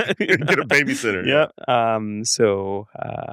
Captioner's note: laughs